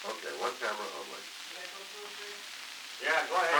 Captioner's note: production chatter